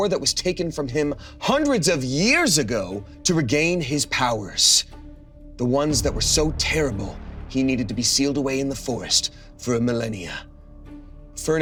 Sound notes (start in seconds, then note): none